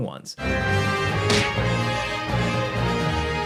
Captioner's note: blows thudding; dramatic orchestral music